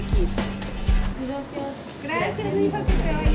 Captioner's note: speaks in foreign language